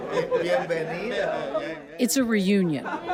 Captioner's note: speaking in foreign language; locals speaking in foreign language